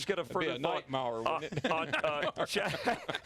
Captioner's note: laughter